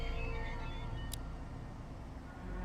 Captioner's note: click